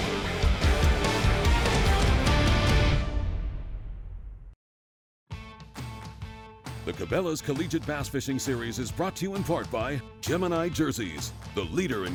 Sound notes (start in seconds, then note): 5.2 voiceover